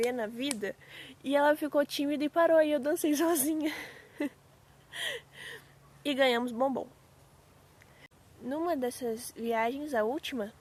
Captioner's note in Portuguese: risadas